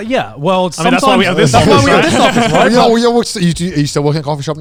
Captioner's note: group chatter